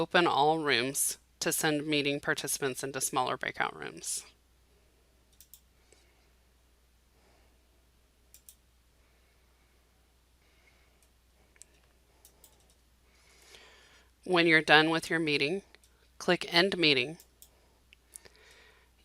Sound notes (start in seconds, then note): 4.2 silence